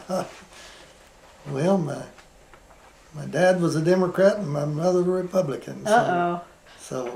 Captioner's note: laughs